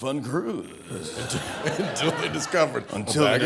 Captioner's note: laughter